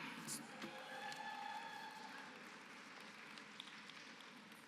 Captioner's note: applause